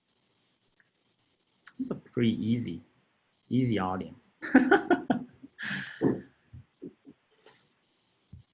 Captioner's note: laugh